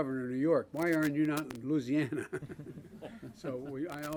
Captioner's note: laughter